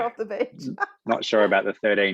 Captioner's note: both laugh